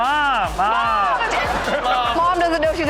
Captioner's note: audience laughs